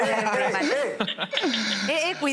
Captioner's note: laughter